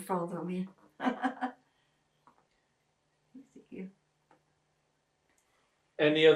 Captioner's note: laughing